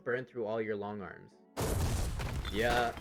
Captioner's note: partly built pillbox collapses